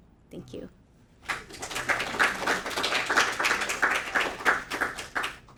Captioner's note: audience applauding